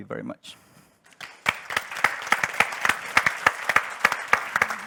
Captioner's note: audience applauds